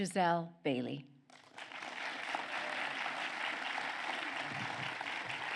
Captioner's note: applause